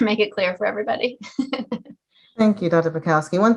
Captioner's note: giggles